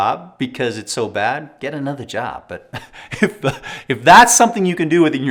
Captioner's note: laughs